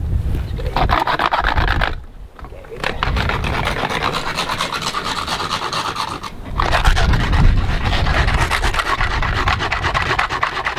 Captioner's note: rock scraping sound